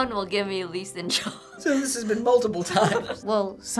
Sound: laughing

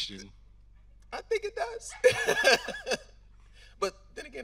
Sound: laughing

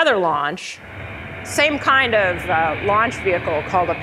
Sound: airplane roaring

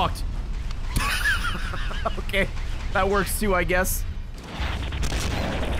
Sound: laughs

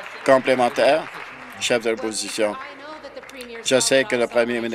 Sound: applause

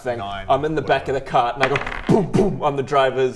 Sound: boom boom

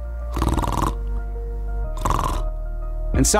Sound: snores loudly

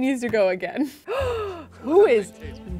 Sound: gasps

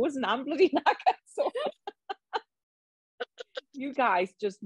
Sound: both laughs

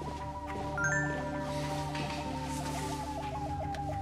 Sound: cell phone notification

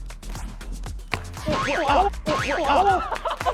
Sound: thwack

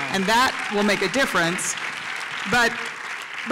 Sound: applause

